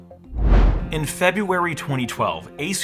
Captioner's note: whooshes